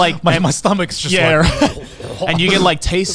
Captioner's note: chuckles; makes rumbling sounds